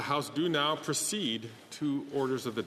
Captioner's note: speaking French